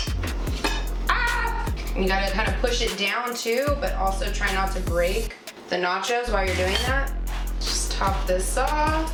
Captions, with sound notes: (yells) You got to kind of push it down too, but also try not to break the nachos while you're doing that. Just top this off.